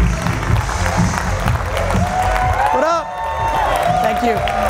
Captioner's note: applauding, cheers; dance music